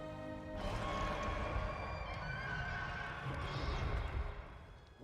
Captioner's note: roar